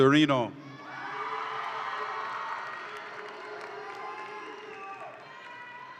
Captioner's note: audience applauds and cheers